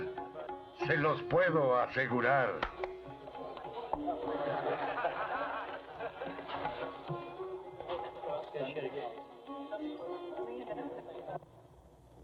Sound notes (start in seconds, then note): 3.3 crowd Laughing